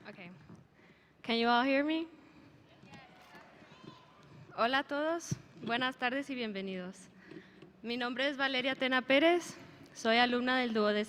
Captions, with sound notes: - Okay, can you all hear me? (speaker speaking in a foreign language)